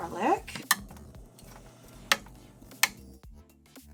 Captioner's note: tongs tapping; upbeat electronic music